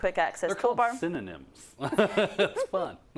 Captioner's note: laugh